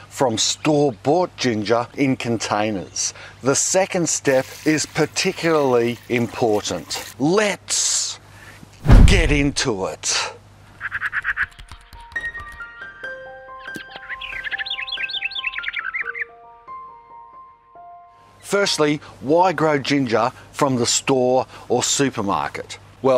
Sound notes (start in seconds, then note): 10.9 bird cawing; 12.0 gentle piano music; 13.6 birds chirping